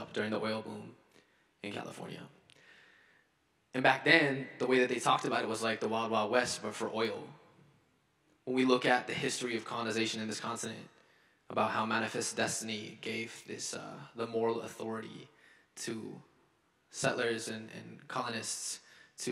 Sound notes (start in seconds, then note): none